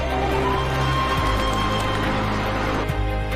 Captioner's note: birds flapping